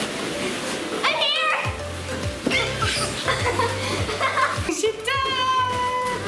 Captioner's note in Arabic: يضحك